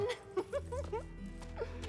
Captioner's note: laughs